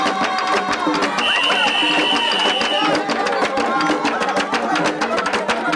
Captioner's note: whistle blowing